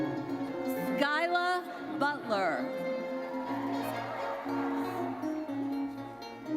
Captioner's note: audience cheers